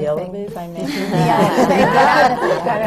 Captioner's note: laughter